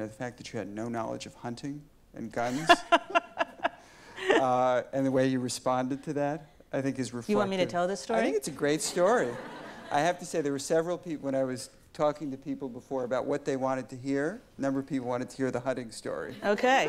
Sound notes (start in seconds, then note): 2.4 Elena laughs; 8.8 audience laughs